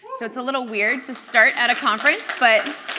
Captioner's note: crowd applauds